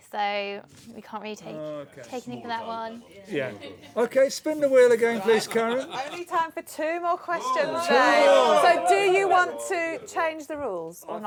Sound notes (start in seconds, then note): 7.3 shouts